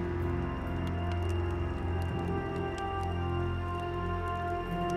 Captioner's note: crackling fire